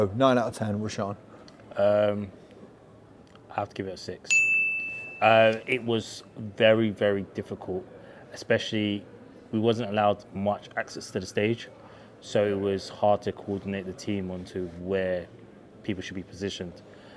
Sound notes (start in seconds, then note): 4.3 bell dinging